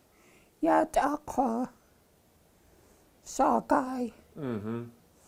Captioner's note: speaking Tlingit